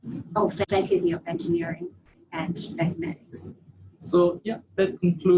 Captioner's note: audio distorts